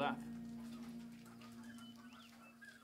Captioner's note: chickens clucking